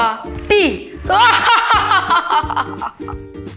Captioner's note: laugh